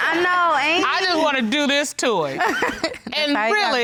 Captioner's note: laughs